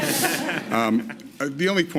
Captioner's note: laughter